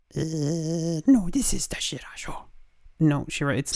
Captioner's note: dog Voice